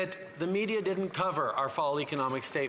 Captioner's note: speaking French